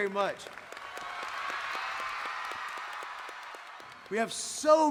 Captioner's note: audience applauding; audience cheering